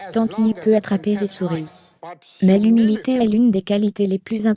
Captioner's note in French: none